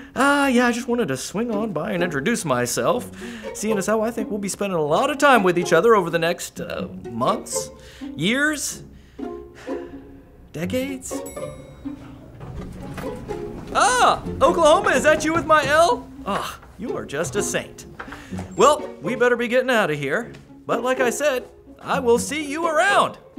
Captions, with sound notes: I really just wanted to swing by and introduce myself since I get the feeling we’re going to be seeing......a whole lot of each other in the coming months... years...decades *elevator ding* Oh, Oklahoma? Is that you with my L? You are an absolute saint! Well we’ll just be going! Like I said...see you around!